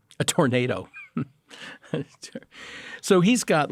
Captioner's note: laughing